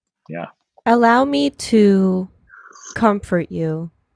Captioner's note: slurping